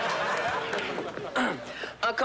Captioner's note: clears throat